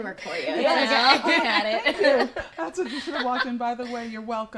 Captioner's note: laughs